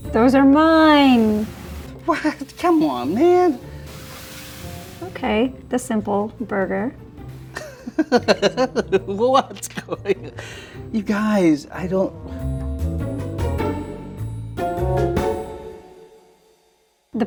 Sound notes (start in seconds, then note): 7.5 laughs; 12.5 mischievous music continues